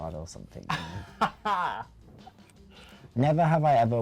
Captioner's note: laughs